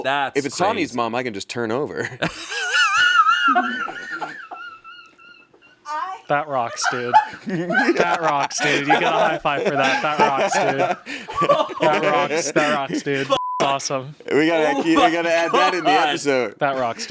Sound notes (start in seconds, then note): 2.2 laughs; 13.3 beep